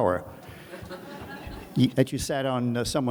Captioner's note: audience laughs